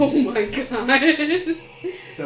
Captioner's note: nervous laughter